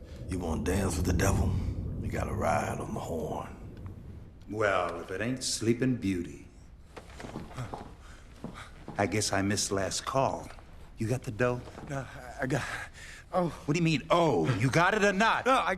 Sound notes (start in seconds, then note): 7.4 gasps